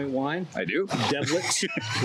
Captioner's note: laughs